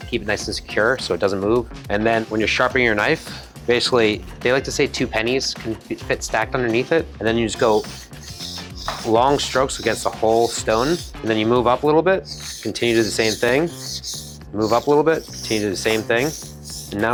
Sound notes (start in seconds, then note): 7.6 knife scraping